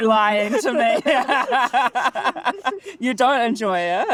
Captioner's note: laughing